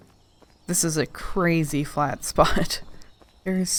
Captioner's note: laughing